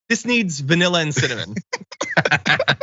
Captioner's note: laugh